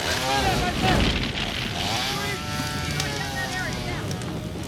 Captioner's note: saw engine roaring; fire cracking